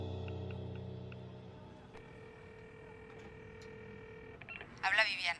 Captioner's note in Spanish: sonido al marcar